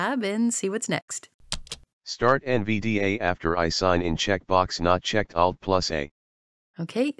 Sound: voiceover

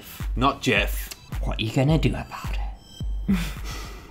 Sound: laughs

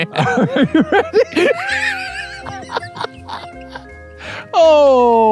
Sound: laughing

